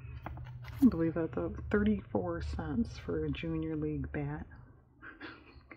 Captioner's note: laughs